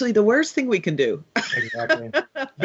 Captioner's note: laughing